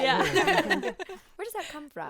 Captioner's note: group laughing